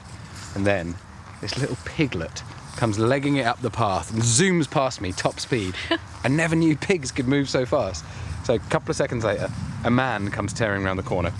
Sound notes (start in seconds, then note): 5.7 laughs